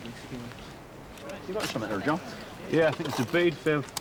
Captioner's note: people chatter